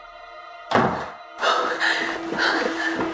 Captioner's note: door slams